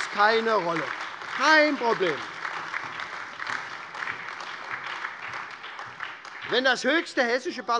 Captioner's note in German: Beifall SPD, AfD, Freie Demokraten und DIE LINKE